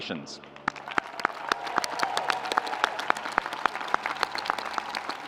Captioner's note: audience applauding